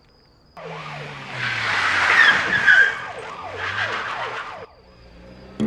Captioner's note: police Sirens